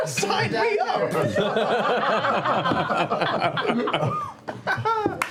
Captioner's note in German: Lachen